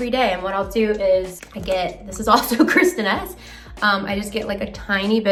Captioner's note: laughs